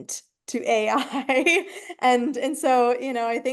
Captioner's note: chuckles